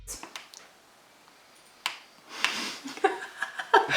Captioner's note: cracking noise, is chewing dry rice